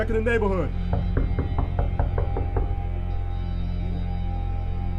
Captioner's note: knocking on the door